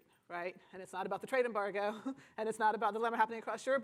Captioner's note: chuckles